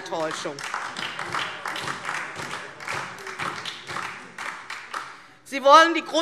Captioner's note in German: Beifall DIE LINKE und vereinzelt SPD